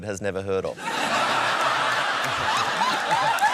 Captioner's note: laughter